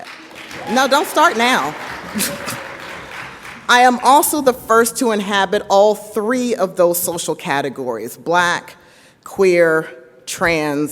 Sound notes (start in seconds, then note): 0.0 audience applauds; 2.1 chuckles